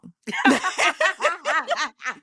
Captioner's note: laughing